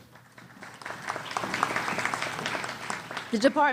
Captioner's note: applause